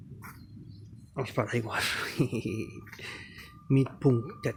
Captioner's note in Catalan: Riu